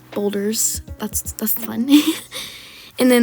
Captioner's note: laugh